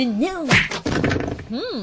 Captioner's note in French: Patate de forain dans la gueule suivi de livres qui tombent